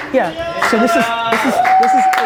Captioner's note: cheers